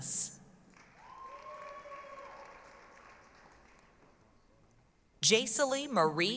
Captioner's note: applause, cheering